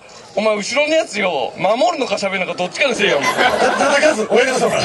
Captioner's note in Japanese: 客 笑・笑・笑